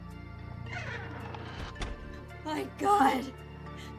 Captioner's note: door creaking